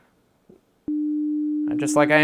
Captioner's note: loud Beep Start